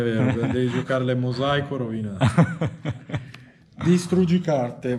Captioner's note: laughs